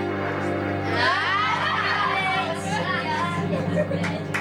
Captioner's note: laughs